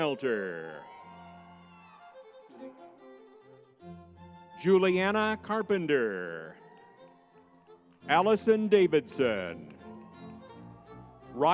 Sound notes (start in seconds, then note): 0.0 crowd cheering; 6.8 crowd cheering; 10.2 crowd cheering